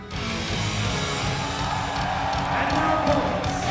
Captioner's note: hard rock music; audience cheering